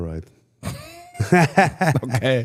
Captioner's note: Cody and Gunther laugh